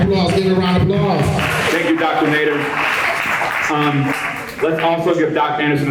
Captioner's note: applause